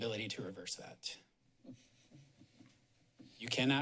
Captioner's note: pause